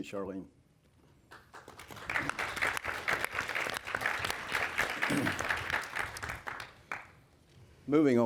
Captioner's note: applause